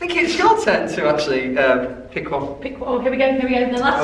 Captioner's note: none